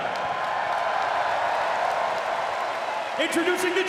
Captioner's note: audience applauds and cheers